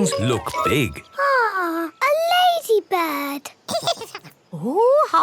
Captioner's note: giggles